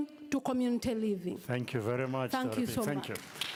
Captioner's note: applause